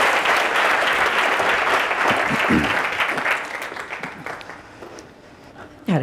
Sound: audience applauding

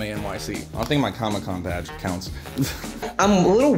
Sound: chuckles

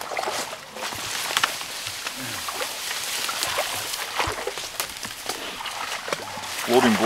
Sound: water sloshing

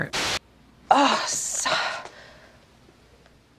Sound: sighs

